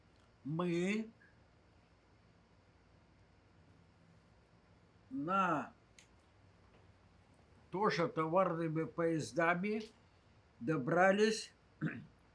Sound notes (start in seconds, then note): 11.8 throat-sound